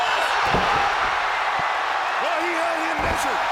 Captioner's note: crowd cheering; wrestlers thud